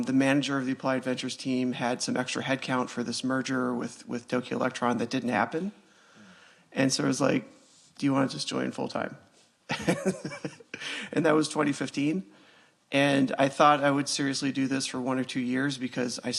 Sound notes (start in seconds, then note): 9.7 laughs